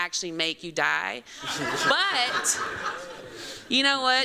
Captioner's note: laughter